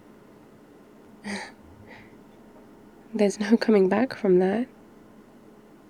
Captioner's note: small laugh